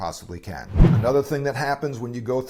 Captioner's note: whoosh